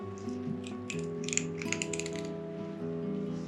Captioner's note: cat chewing